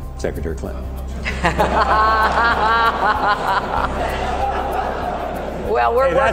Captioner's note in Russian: смех